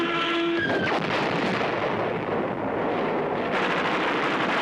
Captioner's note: plane explodes